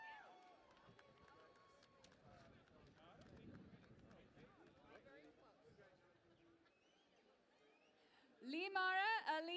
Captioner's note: cheering and Applause